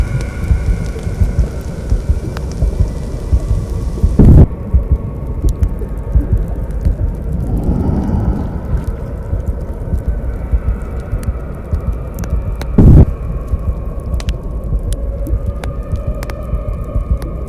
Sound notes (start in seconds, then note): 4.0 thunder; 8.9 screaming